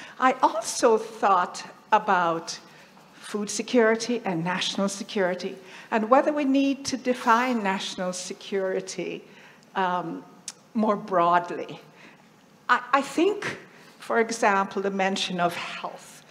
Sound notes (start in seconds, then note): none